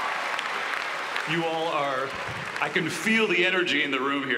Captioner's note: applause